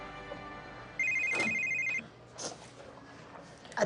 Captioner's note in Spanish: Suena el celular